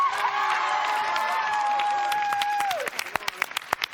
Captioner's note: cheers and applause